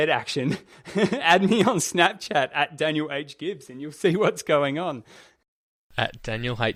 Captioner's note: laughs